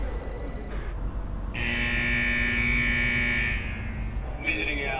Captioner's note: klaxon